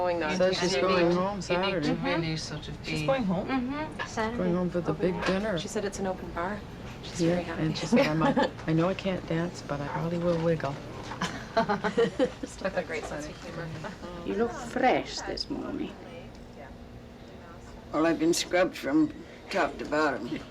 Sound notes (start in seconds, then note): 11.1 laughter